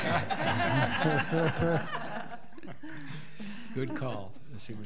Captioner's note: laughing